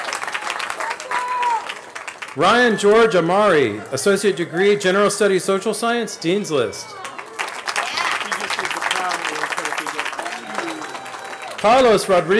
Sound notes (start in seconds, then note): 9.1 cheering